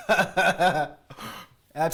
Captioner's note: laughter